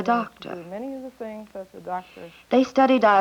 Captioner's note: indiscriminate chatter